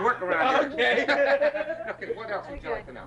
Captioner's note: laughs